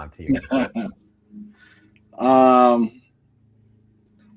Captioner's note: laughing